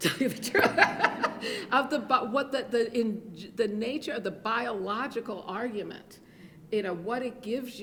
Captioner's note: laughs